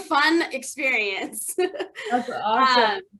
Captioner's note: laughter